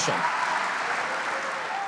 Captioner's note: audience cheers